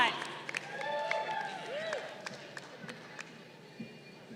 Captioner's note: crowd cheering